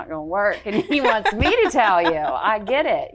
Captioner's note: guest laughing